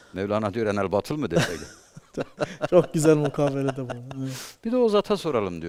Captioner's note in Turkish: kahkaha